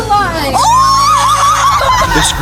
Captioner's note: screams